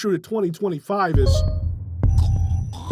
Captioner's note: Steam notification